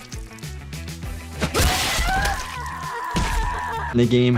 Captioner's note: weapon slashes; character screams